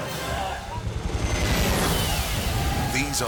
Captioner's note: plane roaring